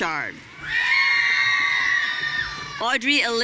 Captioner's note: audience cheering